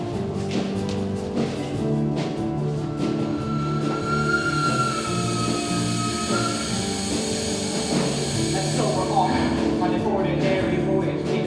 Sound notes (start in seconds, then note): 2.9 train whistle